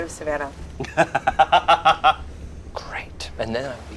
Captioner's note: laughs